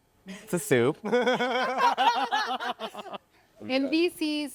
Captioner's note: laughter